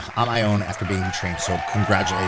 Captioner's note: crowd applauding